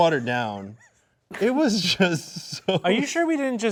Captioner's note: laughing